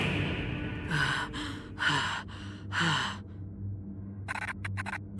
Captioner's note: Robyn panting